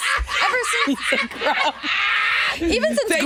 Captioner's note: Jinkx laughing